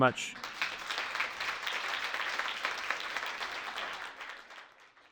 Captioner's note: audience applauds